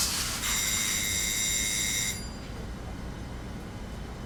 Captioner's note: timer rings